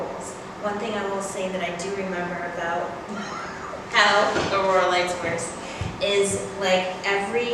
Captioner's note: laughs